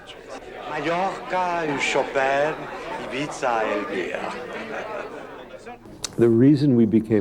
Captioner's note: people chattering; speaking French